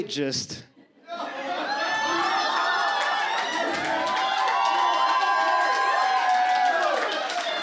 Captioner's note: audience cheers and claps